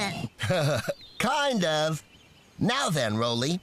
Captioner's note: laughing